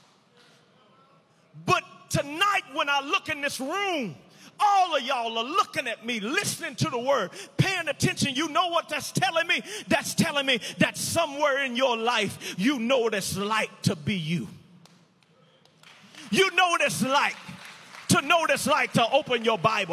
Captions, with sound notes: But tonight, when I look in this room, all of you all are looking at me. listening to the word, paying attention. Do you know what that's telling me? That's telling me that somewhere in your life, you know what it's like to be you. You know what it's like (audience applauding) to know what it's like to open your Bible,